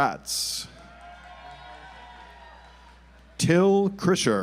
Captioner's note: audience applauds